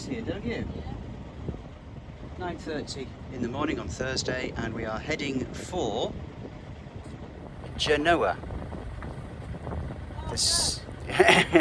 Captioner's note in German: lacht